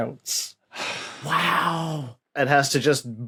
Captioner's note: sighs